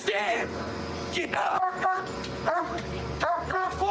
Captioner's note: barking